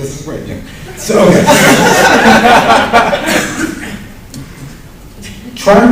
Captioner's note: laughter